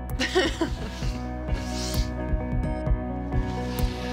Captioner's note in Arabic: قافية إيلي وتضحك